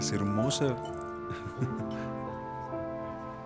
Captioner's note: Curtís ríe